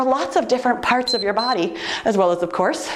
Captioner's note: timer beeps